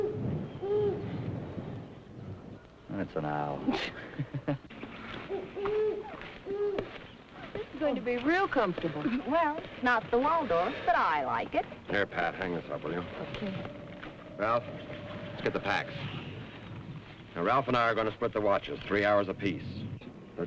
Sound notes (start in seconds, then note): 0.0 owl hooting; 0.0 thunder rumbling; 3.6 Pat and Ralph laughing; 4.9 owl hooting; 5.2 birds chirping